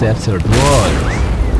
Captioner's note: thunderstorm